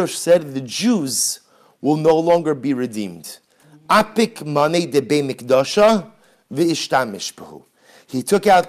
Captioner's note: Hebrew; Hebrew